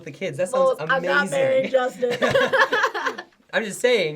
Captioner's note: laughing